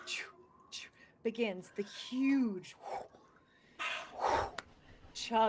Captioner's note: makes whoosh sound with mouth